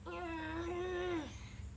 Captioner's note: grunting